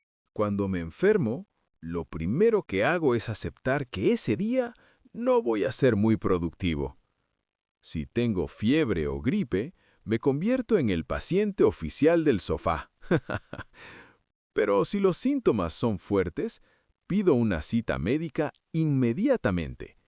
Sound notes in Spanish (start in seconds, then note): 13.0 risas